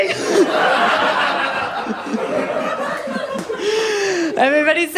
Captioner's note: laughter